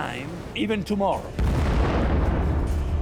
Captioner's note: explosion echoes